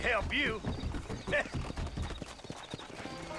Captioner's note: laugh